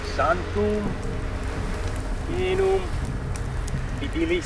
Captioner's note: speaking Latin